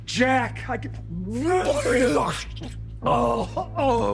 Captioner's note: vomit splatters